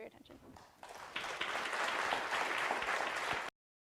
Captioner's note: audience claps